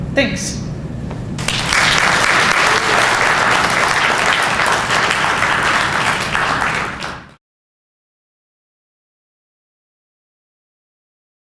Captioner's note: audience applause